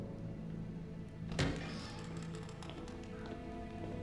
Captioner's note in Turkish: Kapı açılma sesi